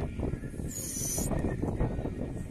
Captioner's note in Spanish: silbido fallido